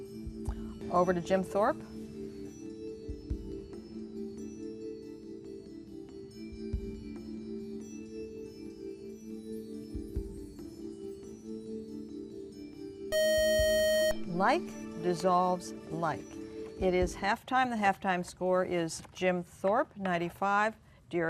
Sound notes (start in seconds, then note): 13.1 buzzer